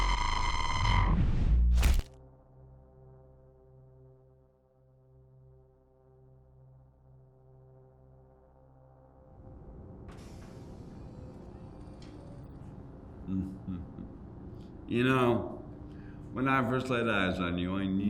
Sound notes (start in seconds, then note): 10.7 whooshing; 13.2 laughing